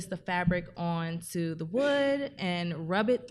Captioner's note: none